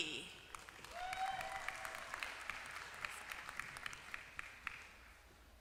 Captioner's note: applause